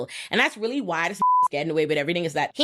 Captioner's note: beep